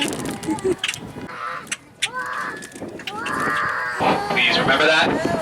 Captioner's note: laughs; child mimics bird calling